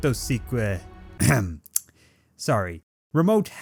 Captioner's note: clearing Throat